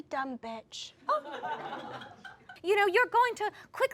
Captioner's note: audience laughs